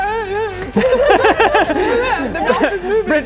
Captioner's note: laughing